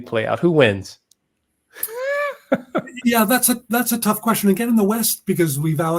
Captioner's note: laugh